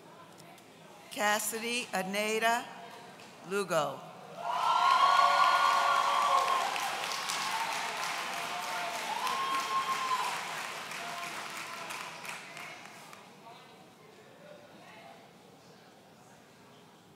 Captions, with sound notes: Cassidy Eneida Lugo. (audience cheering)